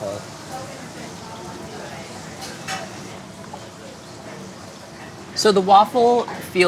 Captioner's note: food sizzles in background